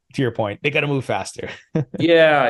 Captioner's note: laughs